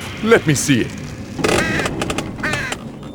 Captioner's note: crow squawk